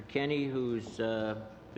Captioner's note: speaking French